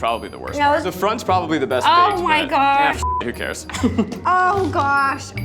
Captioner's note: beep